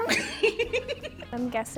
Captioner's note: laughing